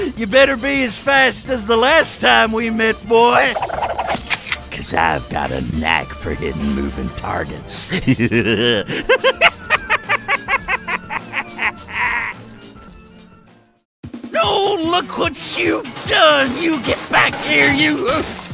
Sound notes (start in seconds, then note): 7.8 laughter